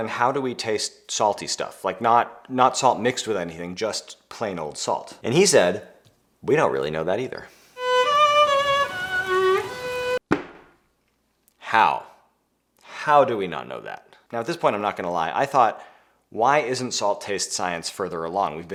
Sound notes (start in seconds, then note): 7.7 melancholy violin music; 10.2 head thumping